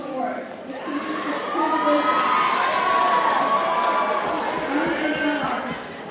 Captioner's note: audience cheers and applauds